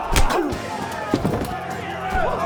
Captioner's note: bar patron falls; loud slap